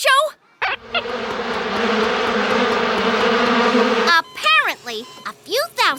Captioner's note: buzzing